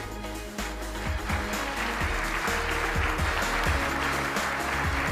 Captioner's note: applause